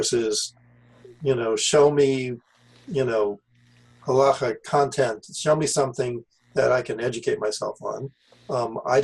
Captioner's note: Hebrew